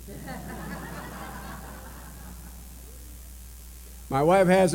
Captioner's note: laughter